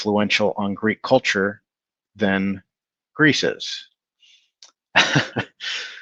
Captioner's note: laughs